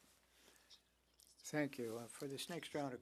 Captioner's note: speaking French